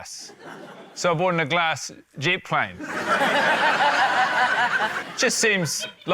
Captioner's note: laughter